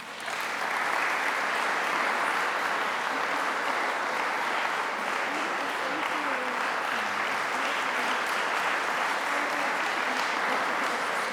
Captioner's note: applause